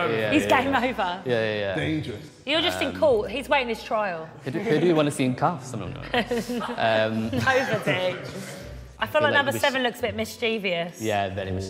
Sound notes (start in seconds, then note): 7.2 woman laughing